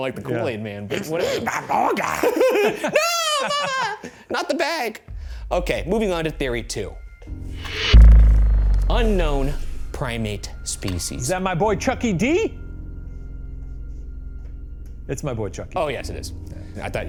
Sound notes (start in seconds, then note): 0.9 both laughing; 7.3 pensive music